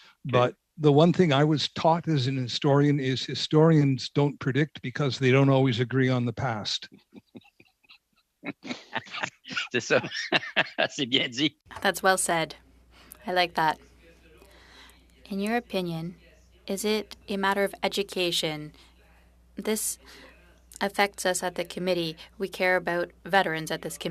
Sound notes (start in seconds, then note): 8.4 laughter; 14.5 speaking French